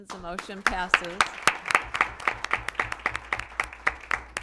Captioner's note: applause